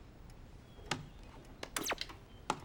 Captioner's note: tv turns off